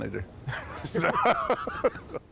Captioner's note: laughter